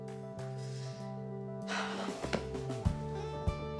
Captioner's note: sighs